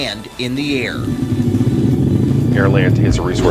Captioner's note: jet engine roars